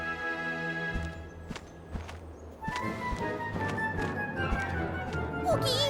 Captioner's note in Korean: 날갯짓 소리